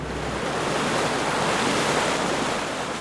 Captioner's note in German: Meeresrauschen